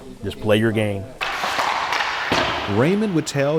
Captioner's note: sticks clattering